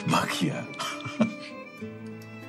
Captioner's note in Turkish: Gülüyor